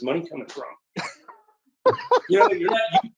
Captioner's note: laughs